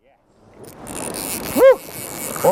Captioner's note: reel drag